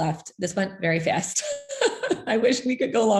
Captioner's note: laughs